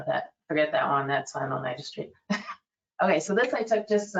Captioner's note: laughs